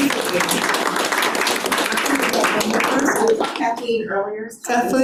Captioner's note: attendees clapping